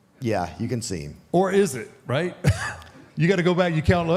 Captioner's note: chuckles